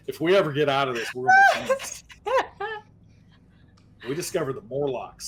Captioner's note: laughing